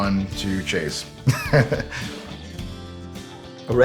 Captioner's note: laughs